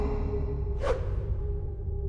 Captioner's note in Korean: 또 다른 홱 소리